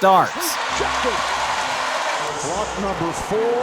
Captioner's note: audience cheering